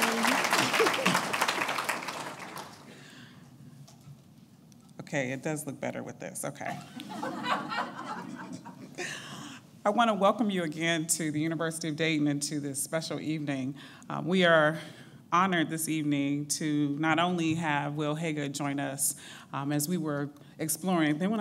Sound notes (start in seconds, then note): 0.0 applauding; 7.1 laughing